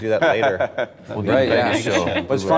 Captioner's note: laughter